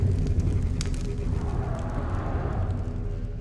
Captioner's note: crackling coal